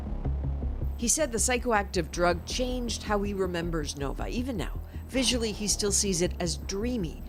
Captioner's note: bombing